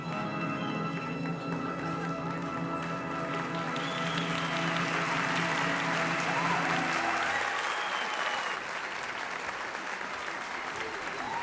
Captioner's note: applause